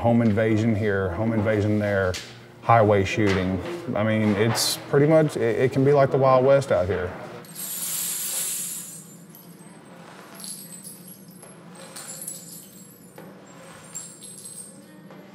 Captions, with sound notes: Home invasion here. Home invasion there. Highway shooting. It's pretty much, it can be like the wild west out here. (clinking)